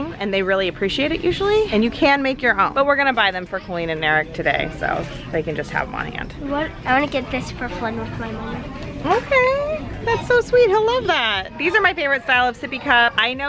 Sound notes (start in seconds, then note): none